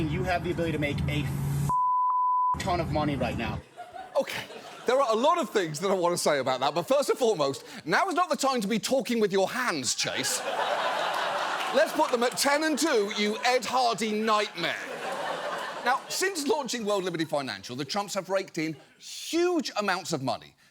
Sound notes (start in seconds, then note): 10.5 audience laughs